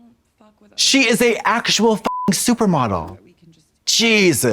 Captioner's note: beep